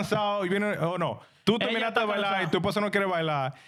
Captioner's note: speaking In Spanish